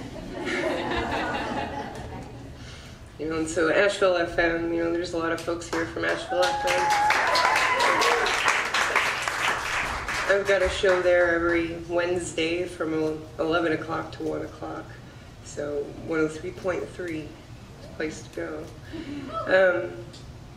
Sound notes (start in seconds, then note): 0.0 audience laughs; 6.0 audience claps